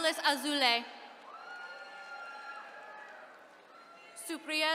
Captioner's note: attendees cheering